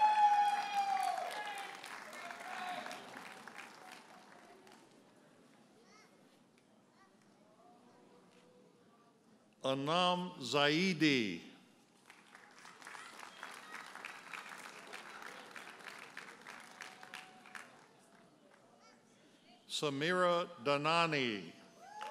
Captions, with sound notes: (audience cheers and applauds) Onam Zahidi. (audience applauds) Sameera Danani.